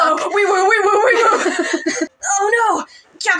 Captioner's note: both Laugh